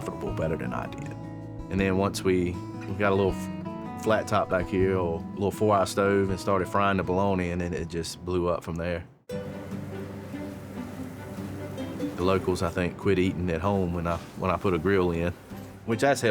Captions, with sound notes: better than I did. And then once we got a little flat top back here, a little four eye stove and started frying the bologna, and then it just blew up from there. [light music] [cheese sizzling] The locals, I think, quit eating at home when I put a grill in, which, that's helped.